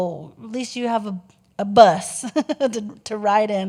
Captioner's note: giggles